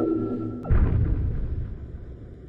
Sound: Yeti Footstep

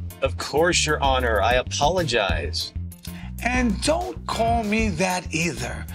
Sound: none

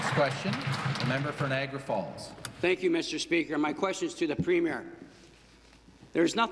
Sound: applause

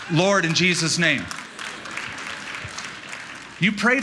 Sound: laughter and applause

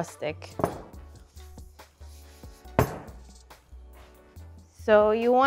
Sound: rolling pin clunking on counter

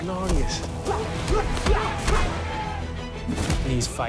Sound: dramatic music; both grunting

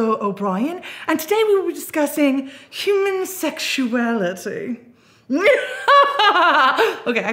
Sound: laughs

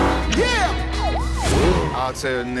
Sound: siren wails

